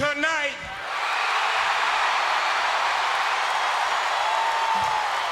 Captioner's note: crowd cheers